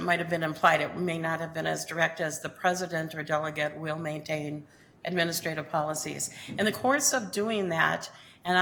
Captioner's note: none